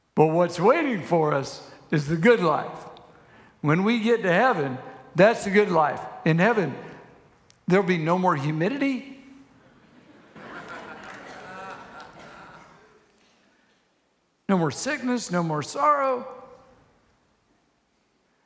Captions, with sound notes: but what's waiting for us is the good life. When we get to heaven, that's the good life. In heaven, there'll be no more humidity. (congregation laughs) No more sickness, no more sorrow.